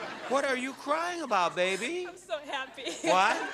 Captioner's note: sobs